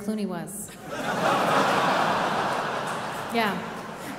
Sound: audience laughing

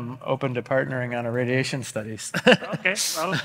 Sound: laughs

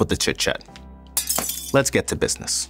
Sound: glass breaking

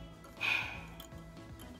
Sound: exhales

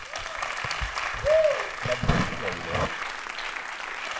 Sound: cheers and applause

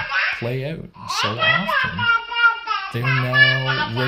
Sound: baby speaks gibberish

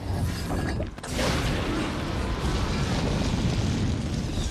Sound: flames whoosh

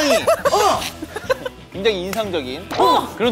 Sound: burst out in laughter

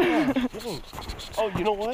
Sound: laughing

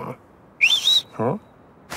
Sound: mouse whistles

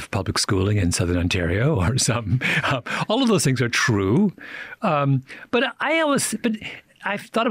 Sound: chuckles

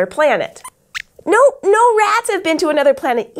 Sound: squeaks squeaks

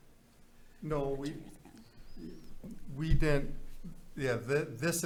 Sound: faintly speaking

